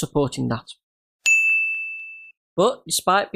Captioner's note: ding